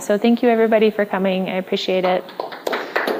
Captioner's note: applause